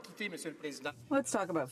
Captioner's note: speaking French